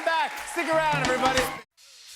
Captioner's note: cheers and applause continue